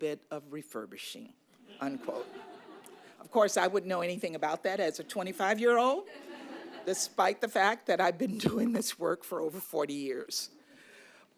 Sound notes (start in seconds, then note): 1.6 laughter; 6.0 laughter